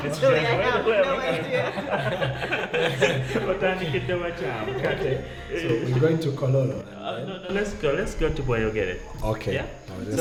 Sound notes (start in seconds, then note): 1.2 laughter